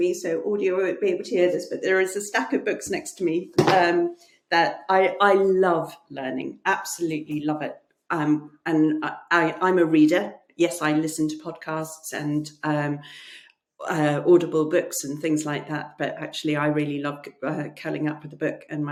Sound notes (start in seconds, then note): 3.6 books thudding